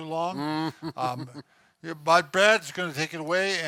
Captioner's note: chuckles